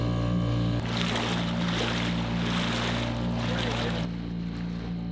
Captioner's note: motor boat engine running; water splashing; tide softly washing in and out